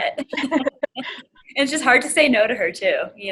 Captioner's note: laugh